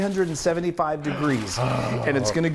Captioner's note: gasps